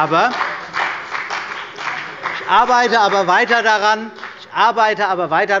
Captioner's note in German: Beifall bei der CDU und dem BÜNDNIS 90/DIE GRÜNEN